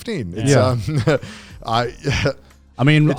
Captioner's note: chuckles